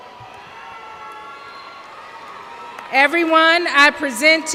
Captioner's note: cheers